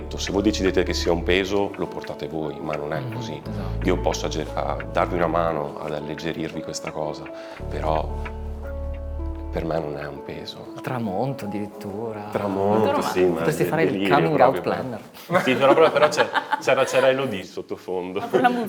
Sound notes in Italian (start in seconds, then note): 15.2 risate